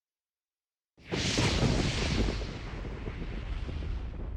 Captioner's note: thunder rumbling